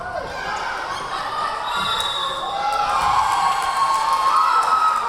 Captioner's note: cheering; whistle blowing; clapping; cheering